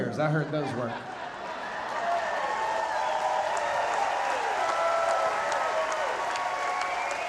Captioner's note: audience laughing, cheering and applauding